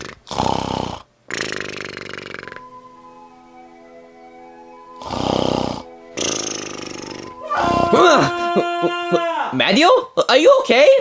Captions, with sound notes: (soft music) (Luigi snoring) (Mario screaming) (Luigi gasping) - Mario, are you okay?